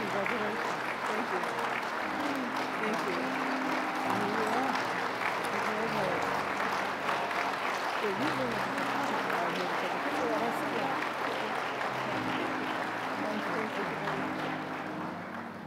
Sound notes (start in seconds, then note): 4.0 applause; 15.5 soft piano music